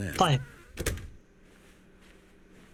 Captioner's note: door closes